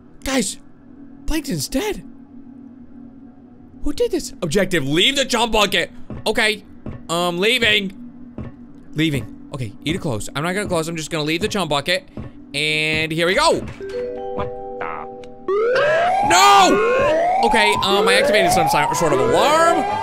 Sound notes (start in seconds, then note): 15.5 loud alarm